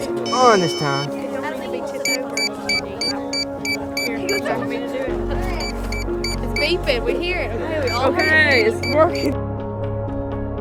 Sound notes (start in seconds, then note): 2.0 beeping